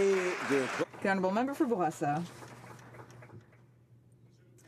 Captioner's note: some Applause